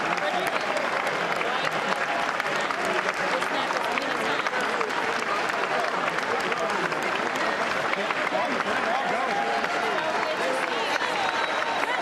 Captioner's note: applause